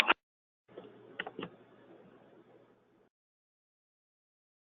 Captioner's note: audio cuts out